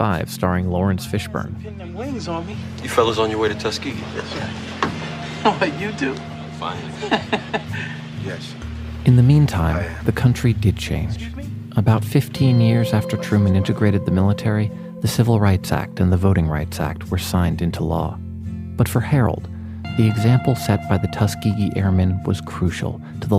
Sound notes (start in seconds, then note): 6.8 laughs